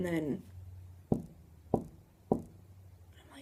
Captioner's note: knock knock knock